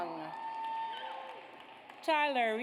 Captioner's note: audience cheers